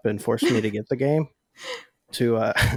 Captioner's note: laughs